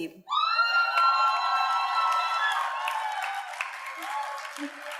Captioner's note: audience cheers and applauds